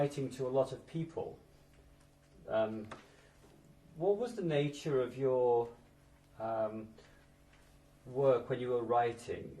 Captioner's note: pauses for 3 seconds